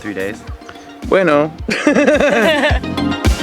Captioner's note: laughs